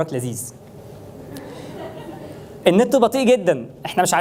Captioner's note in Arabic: ضحك الجمهور